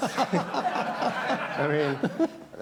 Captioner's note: laughter